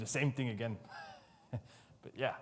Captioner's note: laughs